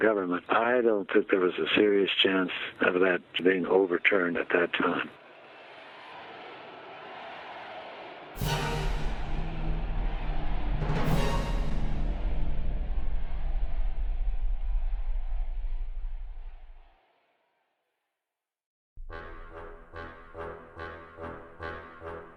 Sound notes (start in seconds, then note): 5.6 crowd chanting; 8.2 tense dramatic music; 9.2 crowd cheering; 19.0 tense dramatic music